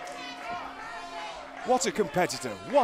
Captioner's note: bell ringing